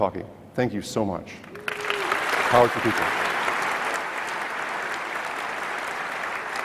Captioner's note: clapping